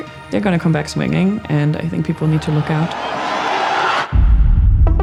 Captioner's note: crowd cheering